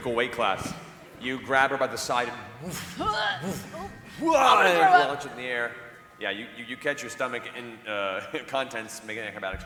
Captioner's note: whoosh, grunt